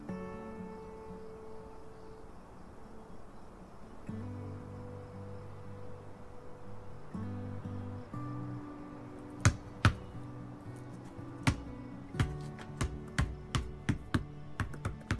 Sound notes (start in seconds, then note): 9.5 basketball bouncing